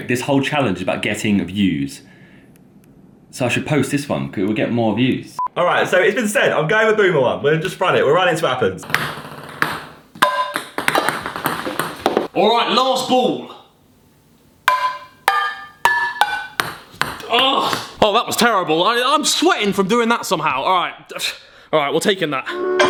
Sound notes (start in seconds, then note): 10.2 ping pong ball bounces; 14.6 ping pong ball bounces